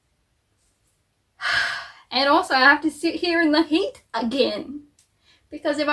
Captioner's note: sighs